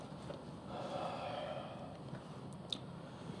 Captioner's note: sighs